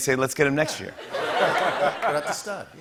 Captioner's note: laughter and applause